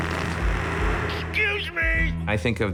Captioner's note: Murderface farts loudly